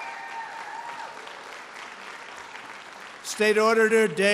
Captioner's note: applause